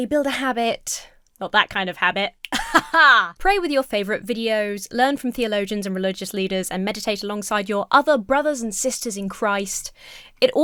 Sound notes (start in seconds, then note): 2.4 snaps fingers; 2.5 laughs confidently